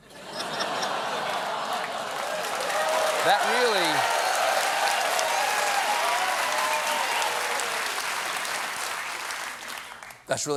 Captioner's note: laughter; cheers and applause